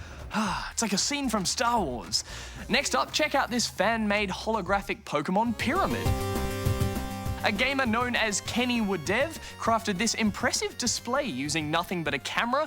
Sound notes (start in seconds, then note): none